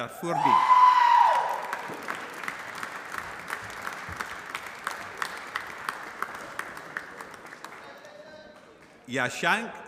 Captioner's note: applause